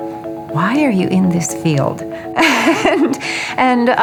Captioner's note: laughs